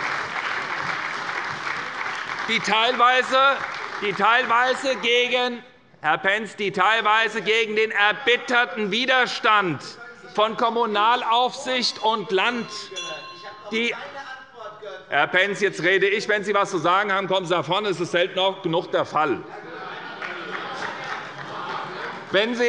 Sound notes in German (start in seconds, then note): 10.8 Unruhe bei der CDU - Glockenzeichen der Präsidentin; 20.1 Beifall bei der SPD